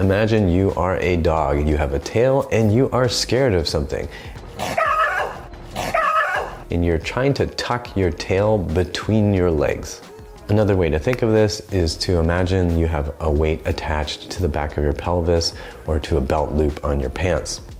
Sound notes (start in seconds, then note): 5.7 yelling sound effect